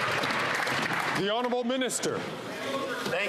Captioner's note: applause